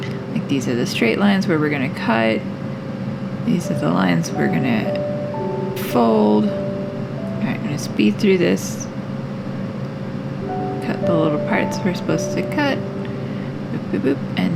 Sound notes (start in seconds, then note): none